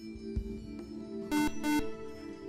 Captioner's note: beep